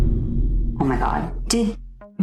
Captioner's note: DUN sfx